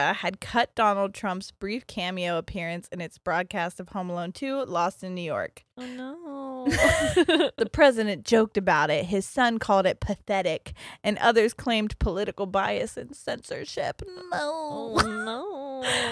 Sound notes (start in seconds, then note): 6.6 laughs